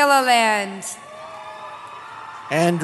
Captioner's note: cheering